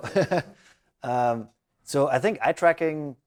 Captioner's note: laughs